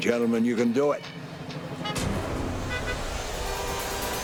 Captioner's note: car alarm